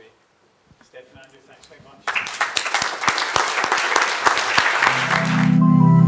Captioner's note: applause